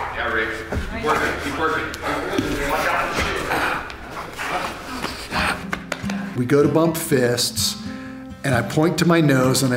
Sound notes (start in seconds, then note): 2.5 spectators yelling simultaneously